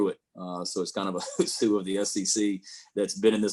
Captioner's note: chuckling